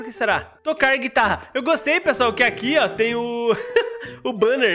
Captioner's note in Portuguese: risos